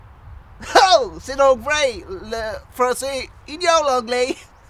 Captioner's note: british Accent